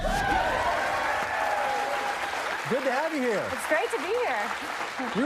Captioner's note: cheers and applause